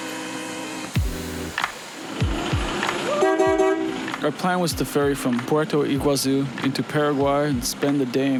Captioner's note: upbeat Music; horn Honking